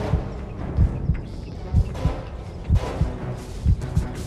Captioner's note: tone droning